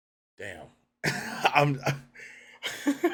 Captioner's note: laughs